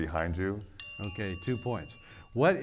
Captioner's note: bell dings